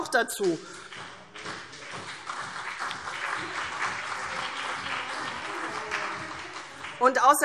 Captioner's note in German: Beifall CDU und BÜNDNIS 90/DIE GRÜNEN